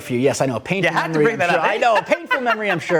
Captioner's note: laughter